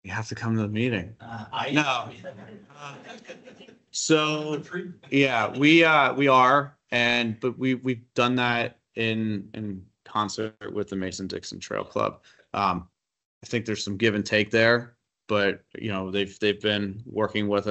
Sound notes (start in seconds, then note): 1.6 attendees laugh